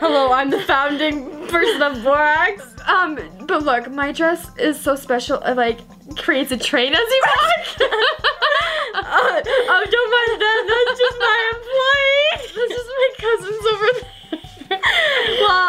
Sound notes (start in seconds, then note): 7.9 laughing